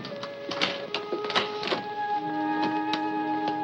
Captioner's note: door locking; dramatic music